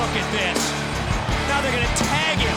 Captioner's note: crowd cheering